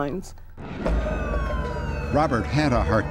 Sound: siren blaring

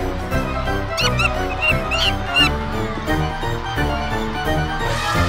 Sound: monkey chitters

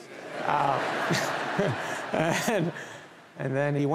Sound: audience laughing

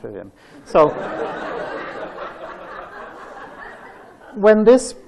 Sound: laughter

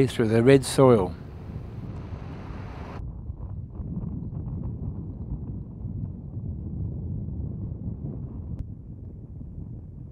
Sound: vehicle sounds

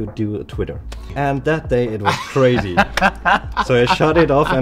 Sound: laughs

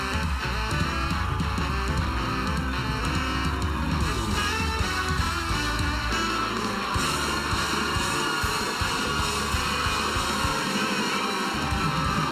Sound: cheers and applause

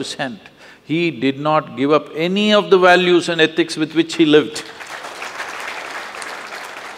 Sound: applause

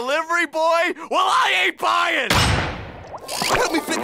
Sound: door slamming

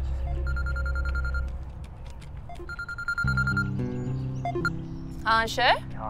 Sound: phone ringing

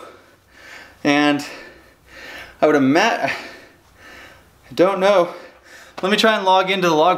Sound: breathing heavily

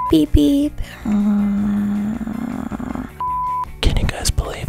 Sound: humming

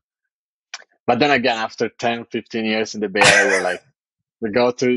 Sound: <Laugh>

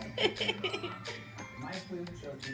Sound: laughing

